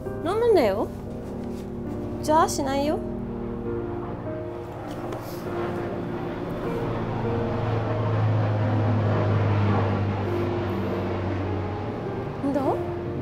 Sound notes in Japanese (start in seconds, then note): 5.2 飛行機の音